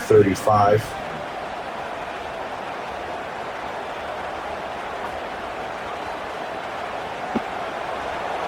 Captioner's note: crowd cheering